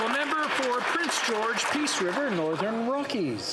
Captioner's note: some Applause